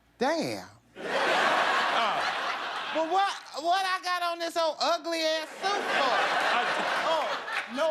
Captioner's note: laughter